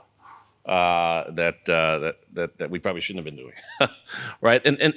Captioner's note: laugh